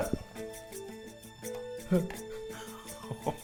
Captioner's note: ominous instrumental music; tooth clicking; chuckling